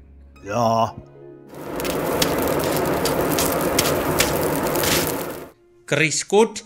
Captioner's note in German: Knistern, Flammengeräusche